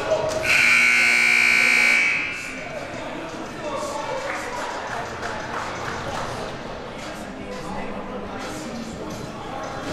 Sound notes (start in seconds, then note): 0.5 siren buzzing